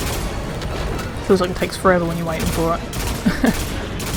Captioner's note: laughs